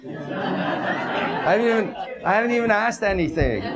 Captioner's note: audience laughs